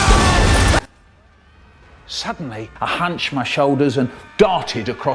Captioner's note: as Pinky and Brain's scream get louder